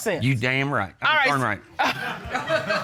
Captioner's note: chuckles